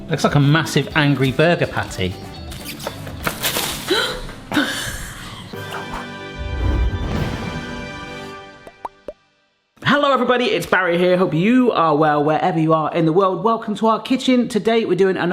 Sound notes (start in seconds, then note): 3.8 gasps; 5.4 triumphant music